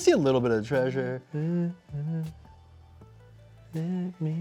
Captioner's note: humming